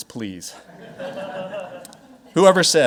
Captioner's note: audience laughing